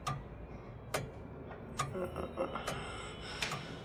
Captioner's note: clock ticking